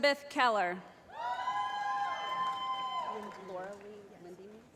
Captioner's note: shouting